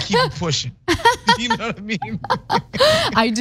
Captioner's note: laugh